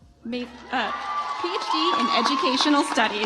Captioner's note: audience applauds